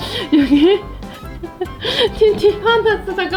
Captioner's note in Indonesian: tertawa